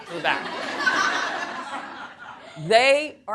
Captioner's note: audience laughing